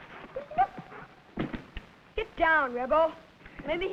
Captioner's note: Rebel whining